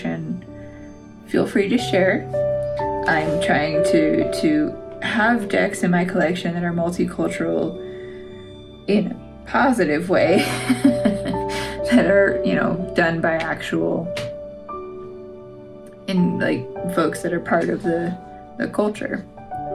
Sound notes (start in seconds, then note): 10.4 laugh